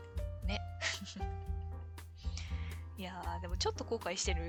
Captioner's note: laughs